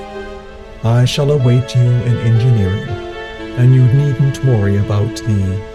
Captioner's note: none